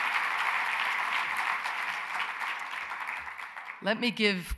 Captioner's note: applause